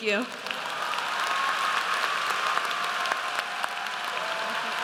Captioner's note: audience applauds